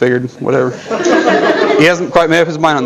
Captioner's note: audience laughter